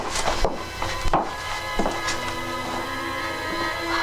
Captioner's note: dramatic music; footsteps tapping; dramatic music